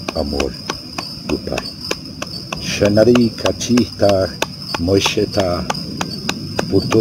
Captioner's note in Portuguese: vibração